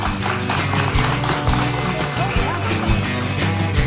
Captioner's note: applause